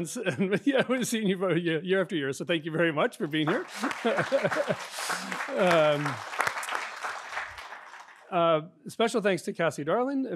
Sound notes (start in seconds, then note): 3.3 audience applauding